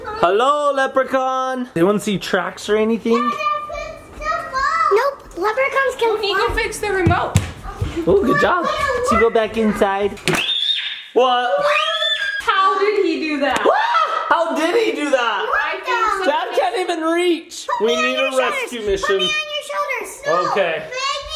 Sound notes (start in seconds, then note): 11.5 shrieks; 13.6 exclaims